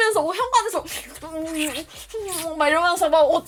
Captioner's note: kissing